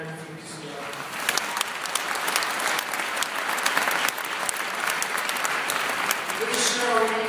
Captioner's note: applause